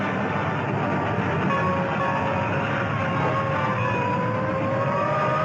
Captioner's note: train chugging; siren blaring